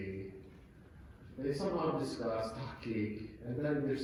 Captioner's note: non-english speech